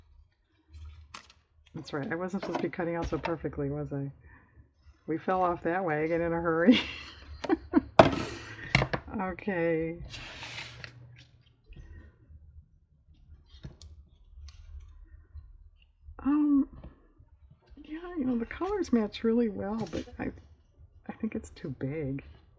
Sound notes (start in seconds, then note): 6.6 laughs